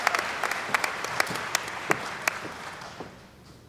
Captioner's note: applause